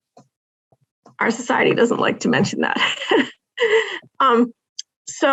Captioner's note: laughing